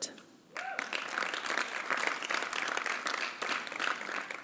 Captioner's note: applause